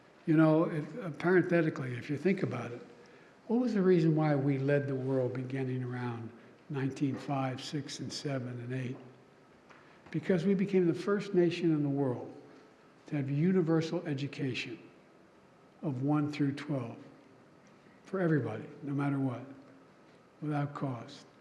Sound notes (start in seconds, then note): none